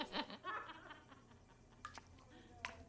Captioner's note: laughing continues